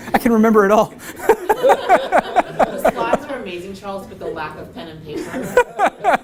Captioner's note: laugh; laugh